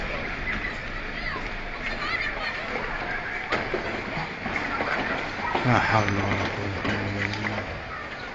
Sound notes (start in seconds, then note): 1.8 people screaming